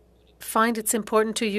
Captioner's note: speaking French